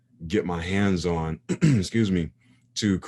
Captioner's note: clears throat